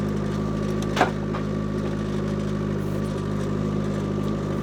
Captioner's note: wood clunking